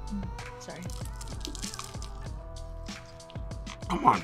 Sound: frog leg crunching

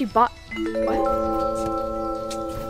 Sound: chime noise

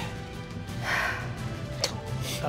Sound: sighs heavily

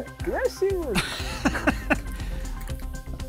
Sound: laughs

